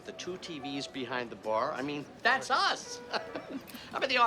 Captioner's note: laughs